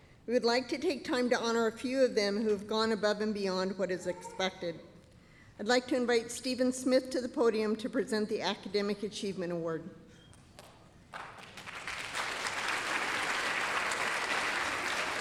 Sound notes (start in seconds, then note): 11.0 applause